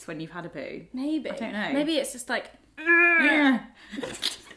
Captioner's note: grunts; both laugh